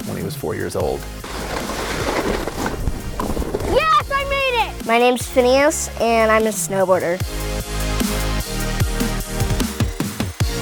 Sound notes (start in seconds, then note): 1.2 wind hisses; 7.8 upbeat music